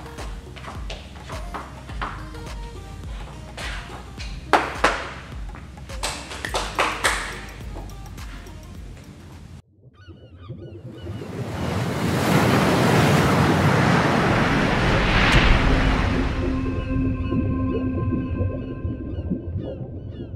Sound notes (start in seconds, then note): 5.8 people clapping; 11.1 waves breaking sound; 17.1 water bubbles sound